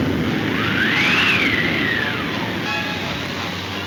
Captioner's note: wind blowing